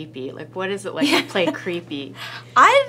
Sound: laughs

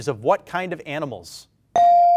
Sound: bell rings

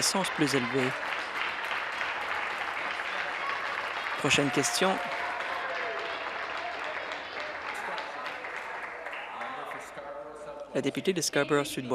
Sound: applause

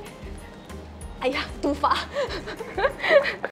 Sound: laughs

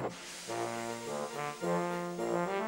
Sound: wheesh!

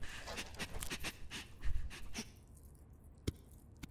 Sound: paniced sniffing

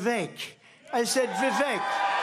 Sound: applause

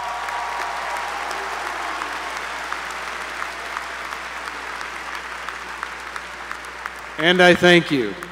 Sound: applause

